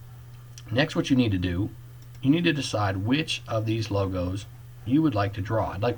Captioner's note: click